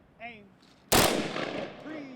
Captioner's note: gunfire